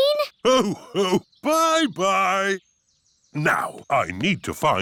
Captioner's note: laughs